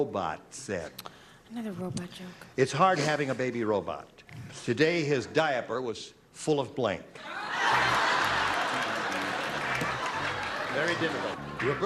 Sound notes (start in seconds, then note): 10.2 laughter